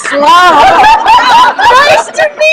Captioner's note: laughter